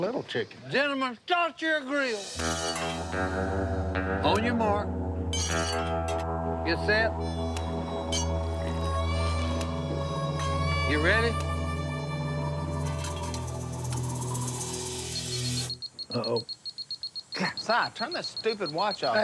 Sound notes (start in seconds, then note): 14.5 beeping